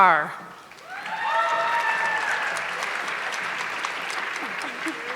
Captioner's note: audience clapping